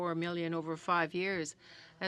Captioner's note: speaking French